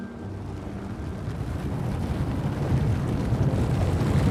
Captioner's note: rumbling